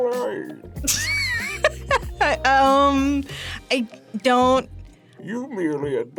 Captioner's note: laughs